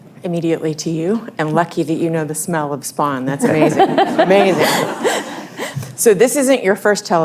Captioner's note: laughter